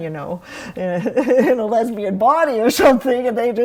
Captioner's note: laughs